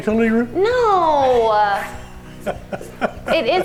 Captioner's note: laughs